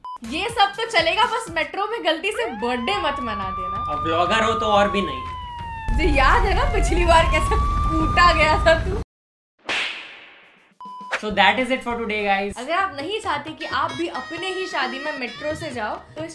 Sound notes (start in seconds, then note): 9.7 slap echoes in memory